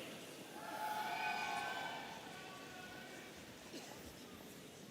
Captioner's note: audience cheering